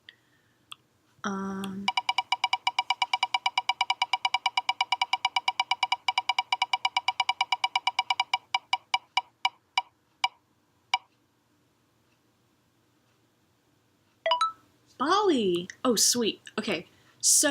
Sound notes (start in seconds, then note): 0.0 thumbs-up click; 1.6 clicky spinner